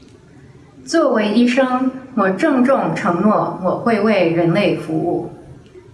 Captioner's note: speaks in foreign language